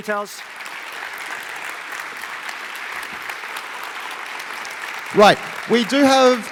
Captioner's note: applause